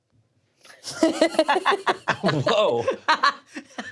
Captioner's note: all laugh